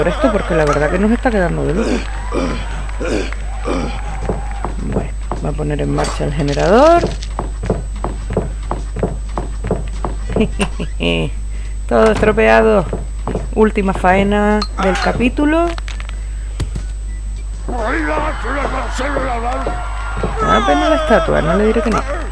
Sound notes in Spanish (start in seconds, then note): 10.4 risas